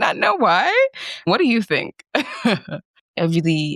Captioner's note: chuckles